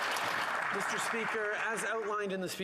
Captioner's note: applause